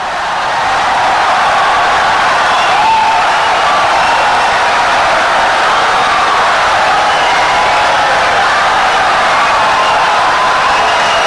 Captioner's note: wild applause and cheering for 17 seconds